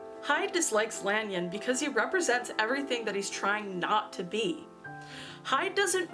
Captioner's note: none